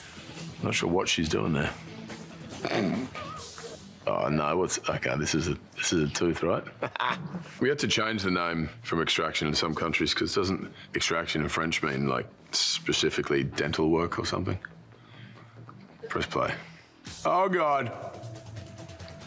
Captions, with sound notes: not sure what she's doing there. (Chris sniggering) Oh no, what's? Okay, this is a tooth, right? (Chris laughing) We had to change the name from extraction in some countries 'cause doesn't extraction in French mean like specifically dental work or something? Press play. Oh God.